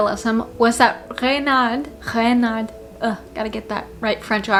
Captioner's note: tries to say Reynard with a french accent